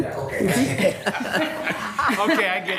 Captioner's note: attendees laughing